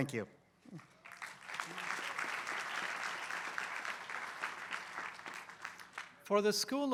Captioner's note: applause